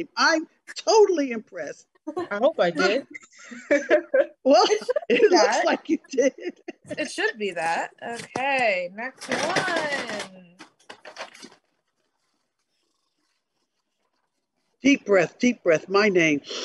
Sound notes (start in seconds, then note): 2.9 chuckles softly